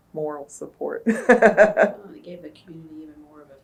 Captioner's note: laughs